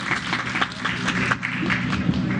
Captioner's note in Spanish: aplausos